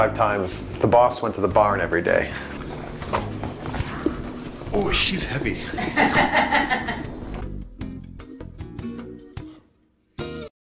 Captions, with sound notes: The boss went to the barn everyday. Oh, she's heavy. (laughing)